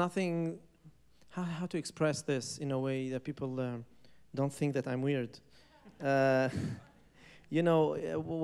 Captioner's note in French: rires